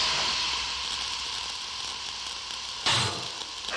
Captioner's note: sparks crackling; thud; sparks crackling